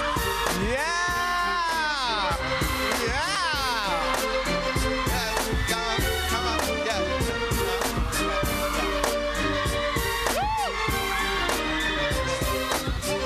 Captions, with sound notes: [APPLAUSE] [APPLAUSE] >> YEAH! YEAH. COME ON, YEAH, YEAH.